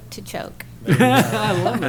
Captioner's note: laughter